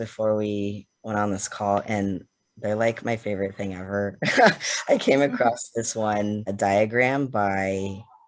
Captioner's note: laughs